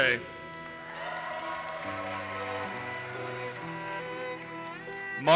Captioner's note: audience cheers and applauses